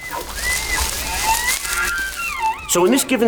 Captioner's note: elk bugling